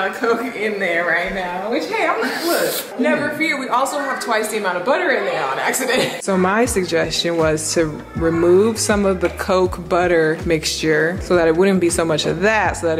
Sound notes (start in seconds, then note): 2.6 seething